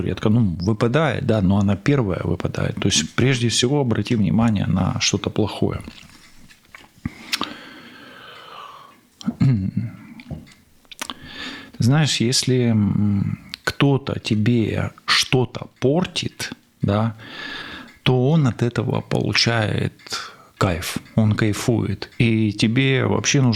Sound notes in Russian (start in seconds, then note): 5.9 вздыхает; 9.2 откашливается